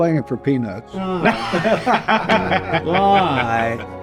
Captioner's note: laughing